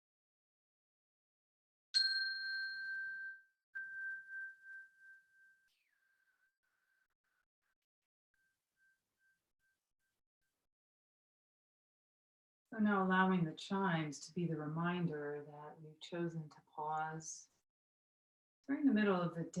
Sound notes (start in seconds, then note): 1.9 chime